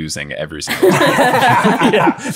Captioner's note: everyone laughing